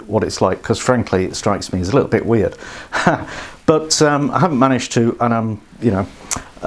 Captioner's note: laughs